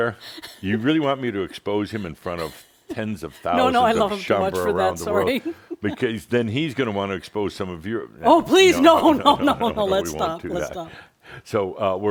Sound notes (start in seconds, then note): 0.2 chuckles; 8.2 she continues chuckling; 11.3 chuckling